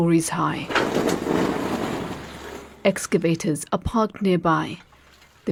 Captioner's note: debris falling